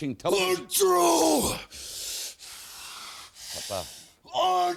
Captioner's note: breathes heavily